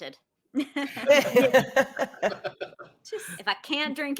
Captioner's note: all chuckle